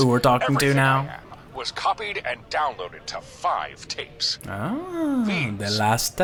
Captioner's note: laughs